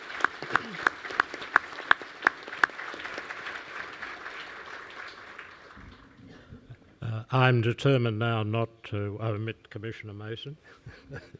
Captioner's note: applause